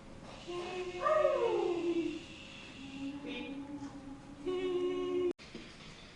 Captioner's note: howls and shushing